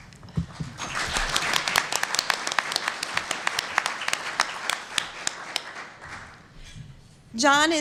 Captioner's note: applause